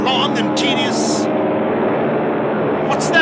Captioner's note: plane noises